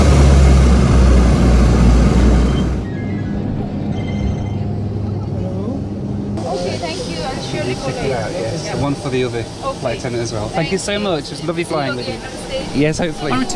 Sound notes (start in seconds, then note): 0.1 engine roaring; 3.0 phone rings